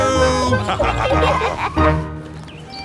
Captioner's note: laughter